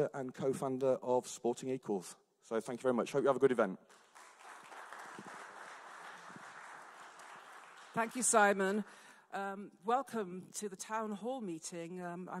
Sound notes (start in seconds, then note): 3.8 audience clapping